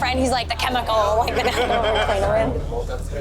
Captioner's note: laughs